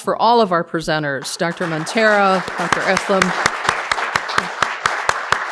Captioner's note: all applauding